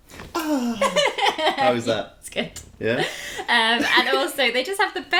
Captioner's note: laughter